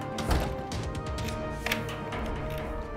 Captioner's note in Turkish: Kapı Kilitleme Sesi